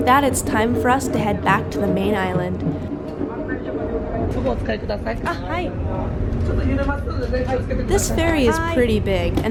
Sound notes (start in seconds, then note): 4.4 speaking foreign language